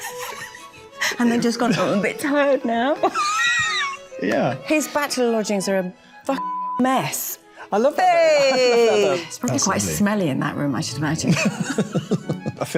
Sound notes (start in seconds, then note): 3.0 laughing; 11.3 both laughing